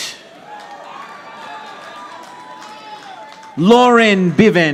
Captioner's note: audience applauding